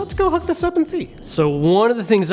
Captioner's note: chimes